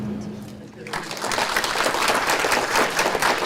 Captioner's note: audience claps